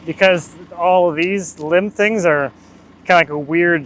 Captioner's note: laughs